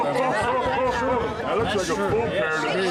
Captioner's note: crowd chatter